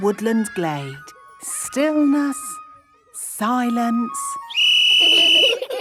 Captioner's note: whistle blowing; laughter